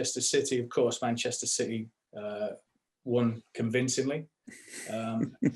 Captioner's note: laughter